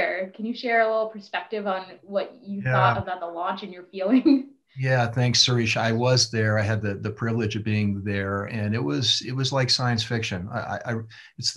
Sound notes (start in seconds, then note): 2.6 laughs